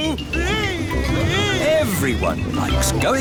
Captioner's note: screaming